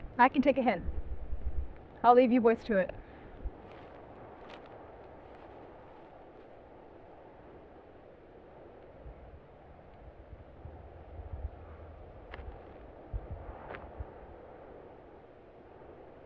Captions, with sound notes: I can take a hint. I'll leave you boys to it. [FOOTSTEPS TRAIL AWAY]